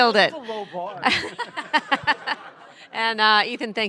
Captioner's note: laughter